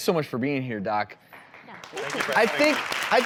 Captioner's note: clapping